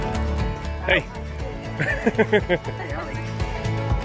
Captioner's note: laughing